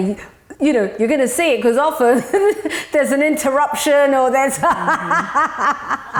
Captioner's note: laughs